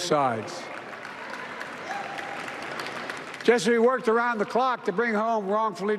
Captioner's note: applause